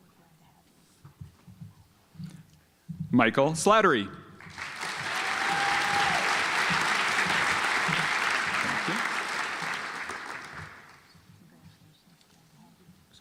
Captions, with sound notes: Michael Slattery (audience applauds)